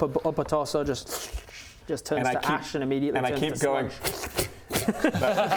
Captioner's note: pfft pfft pfft